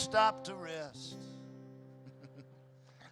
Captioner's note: chuckles